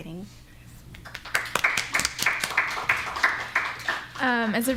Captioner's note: applause